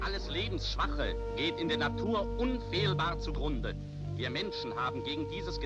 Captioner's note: man speaking german